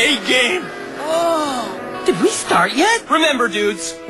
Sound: groans

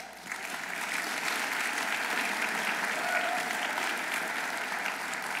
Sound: audience applauding

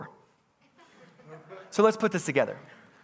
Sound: congregants laughing

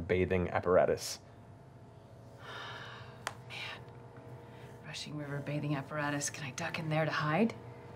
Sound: sighs

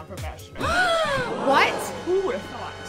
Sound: gasps

